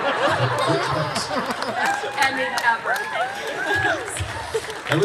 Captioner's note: laughs